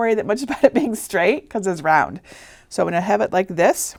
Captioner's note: chuckling